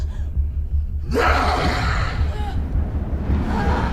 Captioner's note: yelling; whooshing